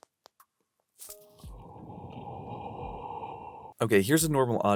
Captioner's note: heavy exhaling